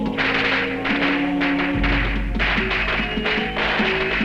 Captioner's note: firecrackers popping